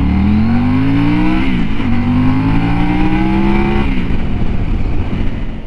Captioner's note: engine sound